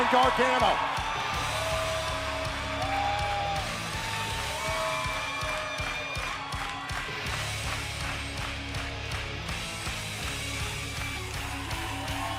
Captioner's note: crowd cheering